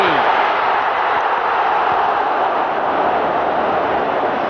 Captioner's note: crowd cheering